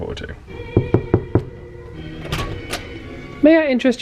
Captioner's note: knocking on door